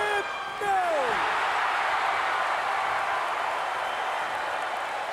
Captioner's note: crowd cheering